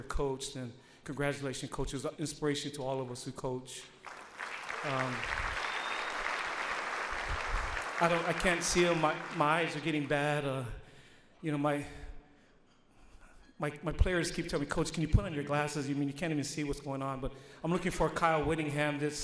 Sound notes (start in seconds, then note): 4.0 audience applauds